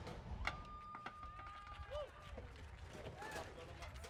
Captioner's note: audience cheers